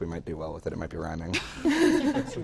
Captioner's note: laughter